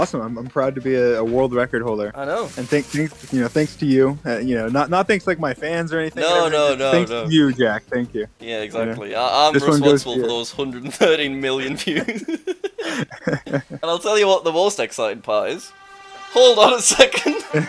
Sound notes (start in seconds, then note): 11.7 both laugh; 14.5 celebratory music